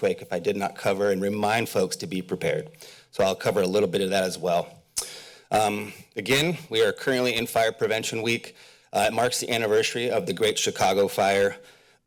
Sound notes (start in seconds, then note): 4.9 smacks lips